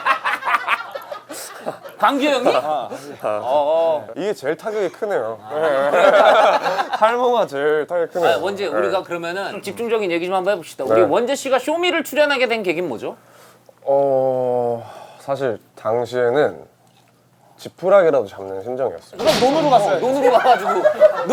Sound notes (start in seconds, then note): 0.0 laughing; 5.5 laughing